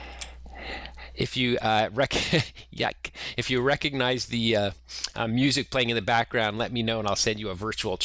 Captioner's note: laughter